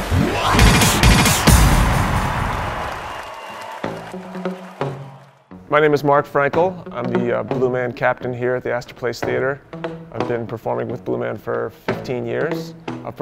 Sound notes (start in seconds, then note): 1.3 applause